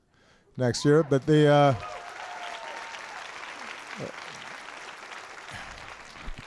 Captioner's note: applause